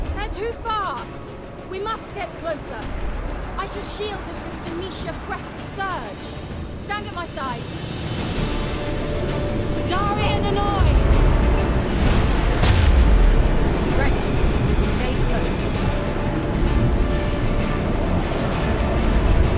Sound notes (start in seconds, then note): 10.2 shouts incantation; 11.8 magic booms; 16.9 wind howling